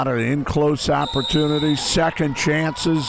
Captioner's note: whistle blows